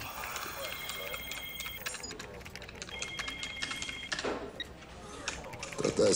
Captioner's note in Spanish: Suena el celular; Sonidos al teclear